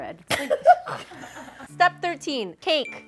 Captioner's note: friends laugh